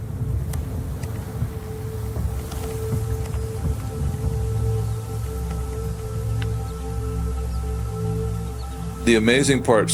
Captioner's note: hull of large historical ship creaking; eerie music; hull of large historical ship creaking